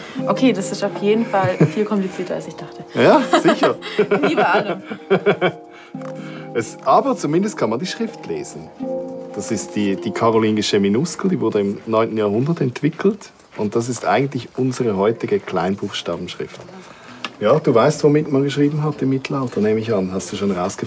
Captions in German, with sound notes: Okay, das ist auf jeden Fall viel komplizierter, als ich dachte. (lacht:) Ja, sicher. Aber zumindest kann man die Schrift lesen. Das ist die karolingische Minuskel, die wurde im 9. Jahrhundert entwickelt. Und das ist eigentlich unsere heutige Kleinbuchstabenschrift. Ja, du weißt, womit man geschrieben hat im Mittelalter?